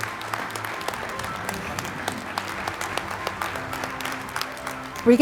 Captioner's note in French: applaudissements